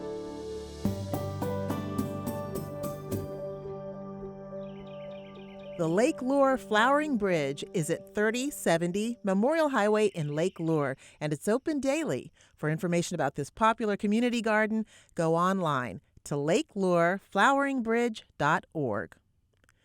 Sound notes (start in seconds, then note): 0.6 bright music; 4.5 bird chirping